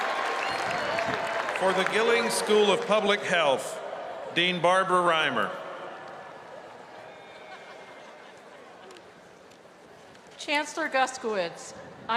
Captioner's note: cheers and applause